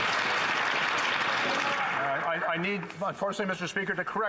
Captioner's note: some Applause